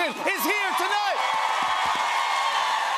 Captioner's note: cheers and applause